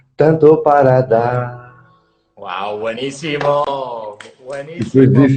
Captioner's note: claps